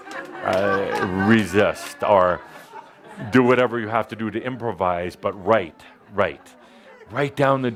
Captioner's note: laughter